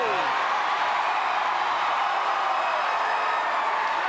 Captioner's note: crowd cheering